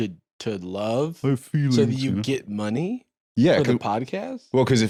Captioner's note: mockingly